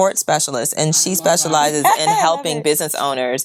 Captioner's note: laughs